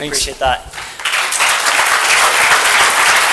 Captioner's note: applause